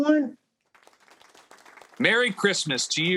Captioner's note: audience clapping